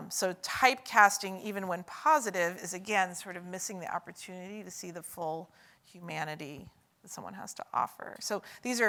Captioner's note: none